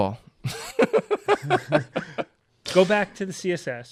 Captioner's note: laughter